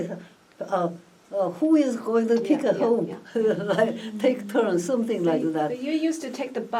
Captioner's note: laughs